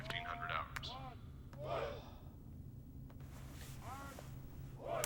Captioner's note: army chanting